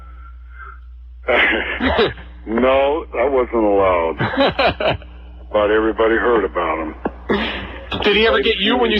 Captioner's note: laughs